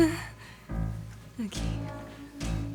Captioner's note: whimpers